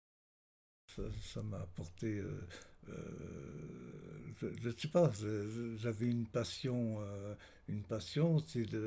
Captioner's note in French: hésitations